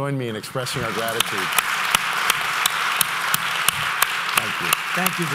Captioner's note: audience claps